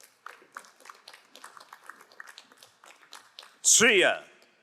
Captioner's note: crowd applauding